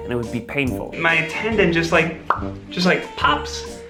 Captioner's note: popping